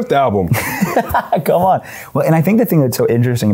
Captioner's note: laughs